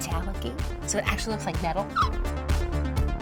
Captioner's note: gasps quickly; upbeat electronic music